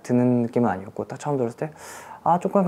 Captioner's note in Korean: 스읍